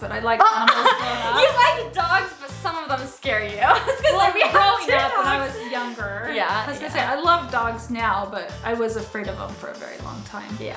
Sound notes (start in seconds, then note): 3.8 laughs